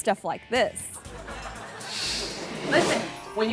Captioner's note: audience laughing